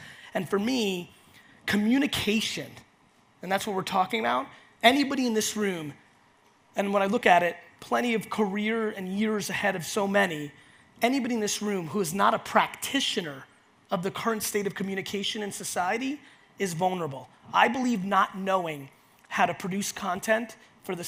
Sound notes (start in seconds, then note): none